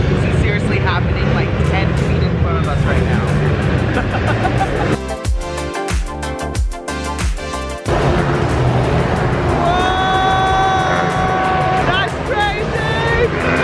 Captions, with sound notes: - This is seriously happening like ten feet in front of us right now. (laughs) (upbeat electronic music) (engines rumbling) Whoa! That's crazy!